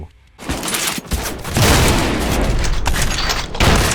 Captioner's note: ka-blam; blam